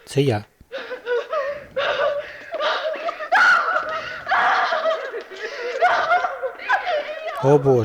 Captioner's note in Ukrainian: всі плачуть